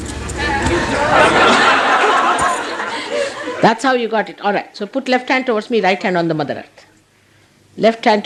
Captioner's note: laughter